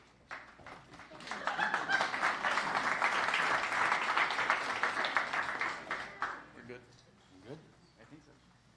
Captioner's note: applause